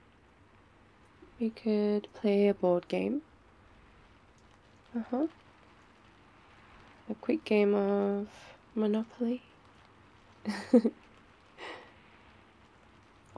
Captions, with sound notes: we could play a board game uhuh a quick game of... monopoly *laughs*